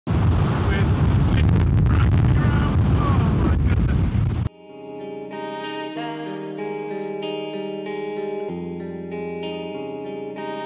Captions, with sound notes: Go right round.....[Wind noise]...Oh my goodness